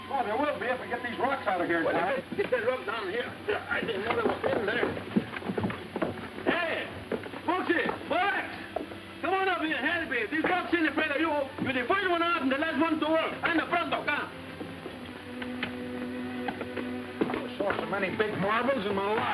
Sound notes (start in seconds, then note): 11.4 speaking foreign language